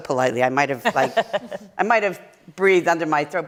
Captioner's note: laughter